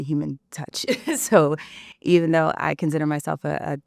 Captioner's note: laughs